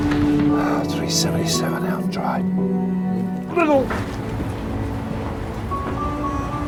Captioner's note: grunts; gentle music